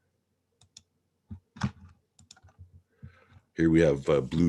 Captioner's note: mouse clicking